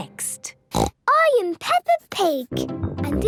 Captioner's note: snorts